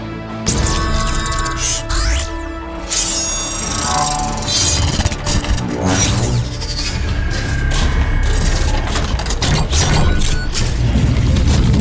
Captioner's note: mechanical Sound Effects